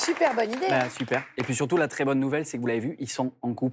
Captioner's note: applause